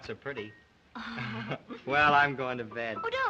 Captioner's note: laughs